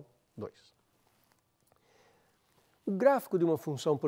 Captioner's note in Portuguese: pausa sonora